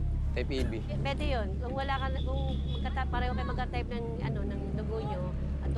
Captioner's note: speaks in foreign language